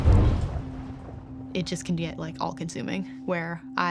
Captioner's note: objects crashing; fire roaring